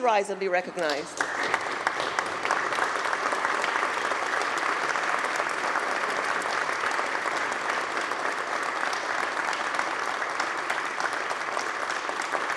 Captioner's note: applause